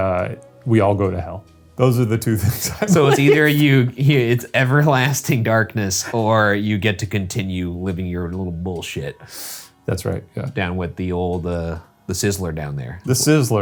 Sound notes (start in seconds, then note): 2.4 laughing